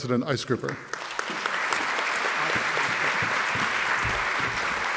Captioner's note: audience clapping